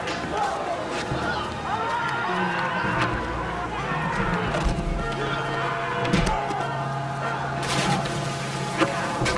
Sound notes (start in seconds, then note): 5.3 thud; 7.6 splash